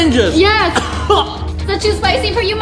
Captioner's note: coughing